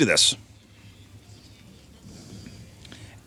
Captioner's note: crowd murmuring